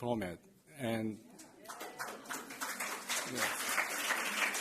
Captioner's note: applause